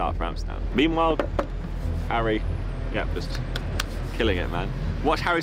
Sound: claps

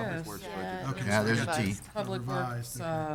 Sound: group chatter response

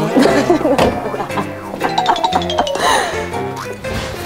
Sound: laughing

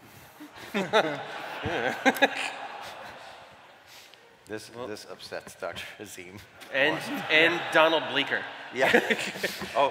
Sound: laughter

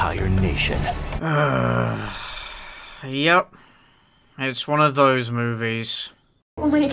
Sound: groan

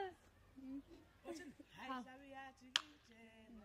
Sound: women speaking in native language

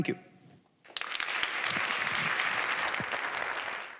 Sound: applause

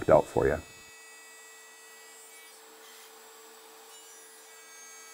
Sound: saw screeching

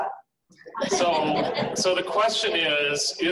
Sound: laughing

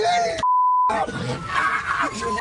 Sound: shouting

